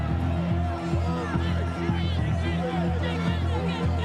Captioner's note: crowd clamoring